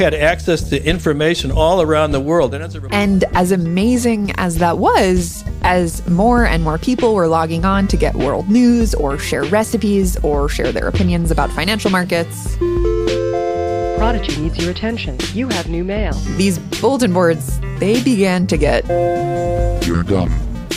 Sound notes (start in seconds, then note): 12.6 bing bing bing